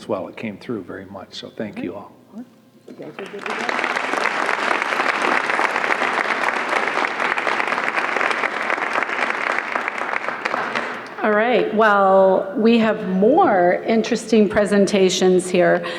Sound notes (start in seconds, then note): 3.1 applause